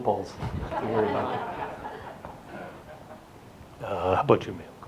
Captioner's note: audience laughs